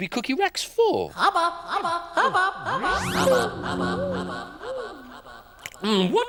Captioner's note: outer Space Voice